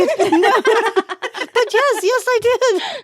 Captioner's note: both laughing